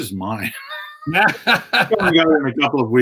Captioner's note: both laughing